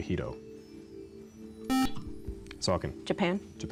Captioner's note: buzzer